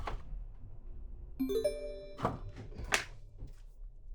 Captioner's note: notification sound